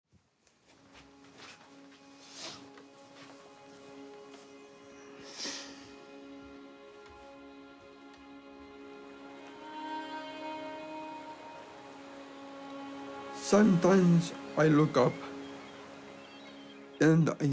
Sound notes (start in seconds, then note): 5.2 sighs; 9.5 poignant music